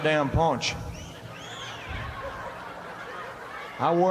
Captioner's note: audience cheering